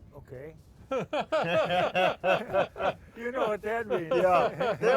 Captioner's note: all laugh